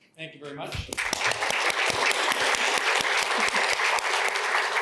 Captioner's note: applause